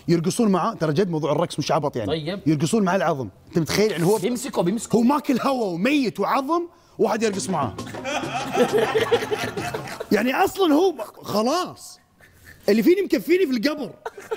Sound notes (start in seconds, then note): 7.8 all laughing